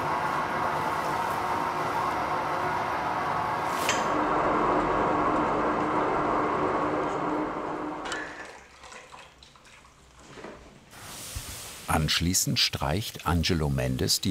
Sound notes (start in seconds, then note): 4.8 muffled humming; 8.5 silence